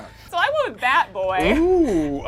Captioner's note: laughs